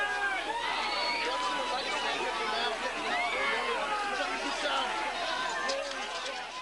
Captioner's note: crowd screaming; men chattering